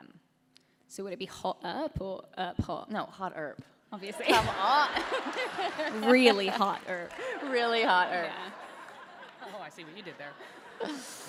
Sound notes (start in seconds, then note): 5.3 applause / Laughter